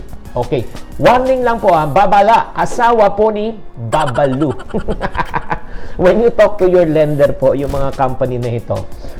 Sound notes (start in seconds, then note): 3.9 laughter